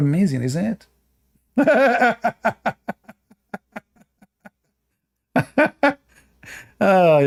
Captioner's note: Ketawa